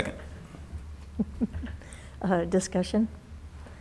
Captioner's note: chuckles